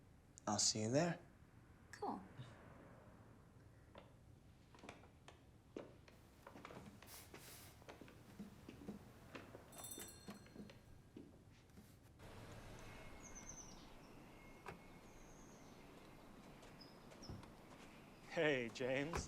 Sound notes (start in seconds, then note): 5.7 footstep; 12.4 bird chirp; 14.4 door open close; 15.9 bird chirp